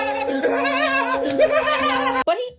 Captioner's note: screaming